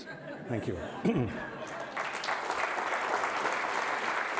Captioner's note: applause